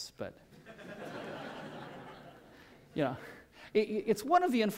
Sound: laughter

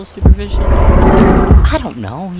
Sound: Azazel snarls

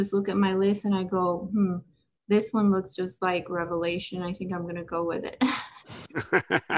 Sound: laughs

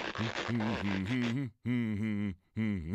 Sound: humming

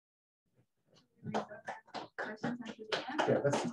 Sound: audience applauding

